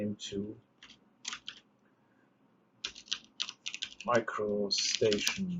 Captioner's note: keyboard clicks